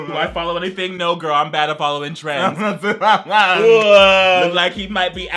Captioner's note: playfully whines